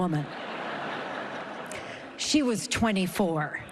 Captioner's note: laughter